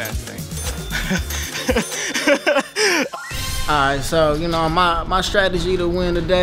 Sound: laugh

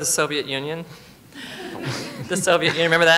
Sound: laughter

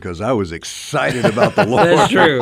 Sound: co-hosts laugh

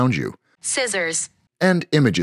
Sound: computerized voice

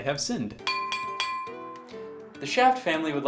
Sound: glass clinking

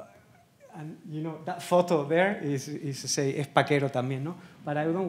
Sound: speaking Spanish

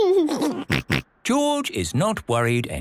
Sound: giggles

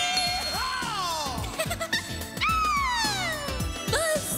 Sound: giggling

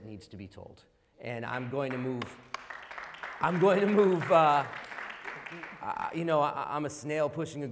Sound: applause

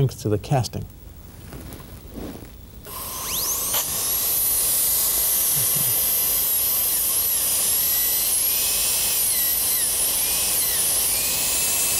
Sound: drilling sound

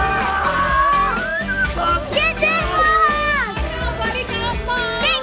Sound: screaming; everyone cheering

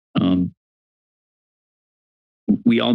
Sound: silence

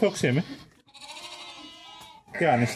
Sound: lamb sheep bleating sounds meeee meee meee

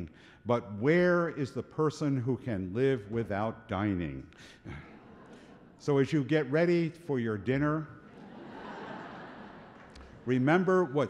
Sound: laughter

